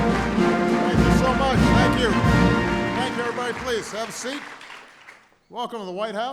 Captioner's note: applause